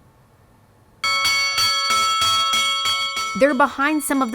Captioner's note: bell ringing